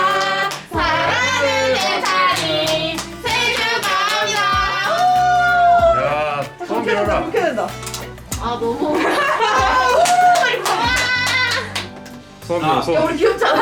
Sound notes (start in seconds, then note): 9.9 excited